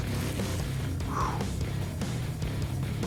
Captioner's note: sharp exhale